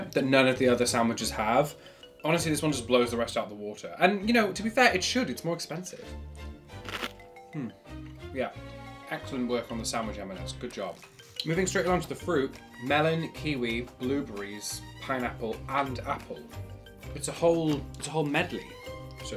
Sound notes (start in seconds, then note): 6.8 lettuce crunches